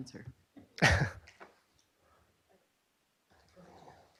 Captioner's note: chuckles